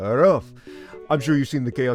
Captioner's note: inhales